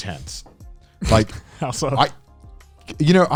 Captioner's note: snorts